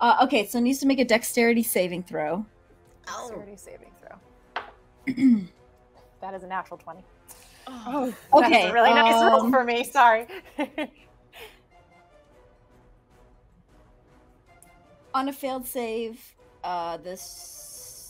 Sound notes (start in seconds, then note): 7.6 all groaning; 15.2 muttering